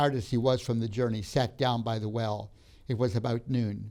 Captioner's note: none